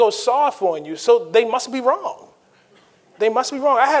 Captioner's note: audience chuckling